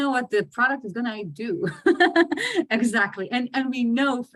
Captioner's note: laughs